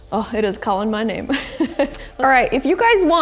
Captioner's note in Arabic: يضحك